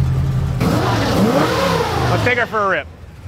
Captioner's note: car revs